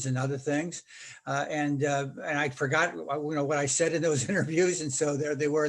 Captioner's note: laughing